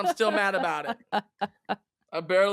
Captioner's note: laughing